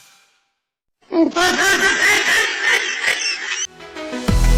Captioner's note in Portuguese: meme risada de sapo